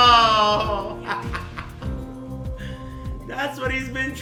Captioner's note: laughing